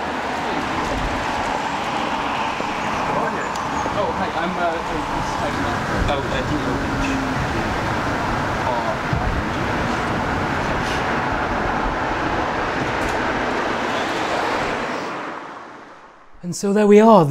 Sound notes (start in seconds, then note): 5.6 traffic drowns out conversation